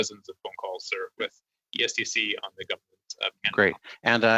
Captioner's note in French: voix de l'interprète